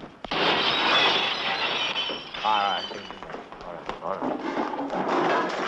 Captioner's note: glass shattering